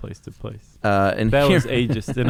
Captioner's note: laughs